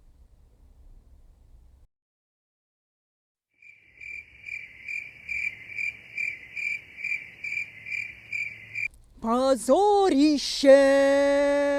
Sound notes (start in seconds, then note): 3.6 sound of crickets